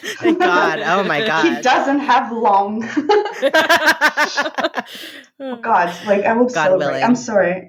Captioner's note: laughing